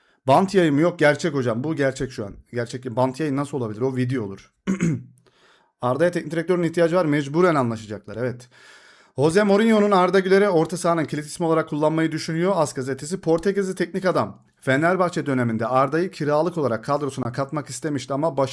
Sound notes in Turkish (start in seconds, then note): 4.6 boğazını temizler